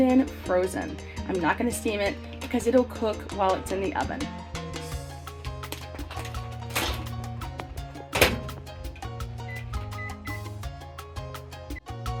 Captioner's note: microwave beeps